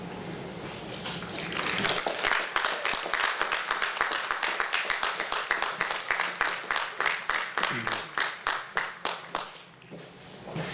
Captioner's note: applause